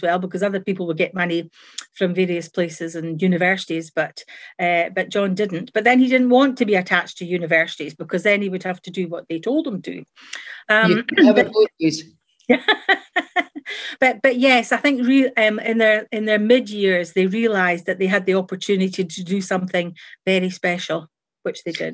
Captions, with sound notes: because other people would get money from various places and universities, but John didn't. But then, he didn't want to be attached to universities, because then he would have to do what they told them to. – You can't have it both ways! – (LAUGHS) But yes, I think in their mid-years, they realised that they had the opportunity to do something very special, which they did.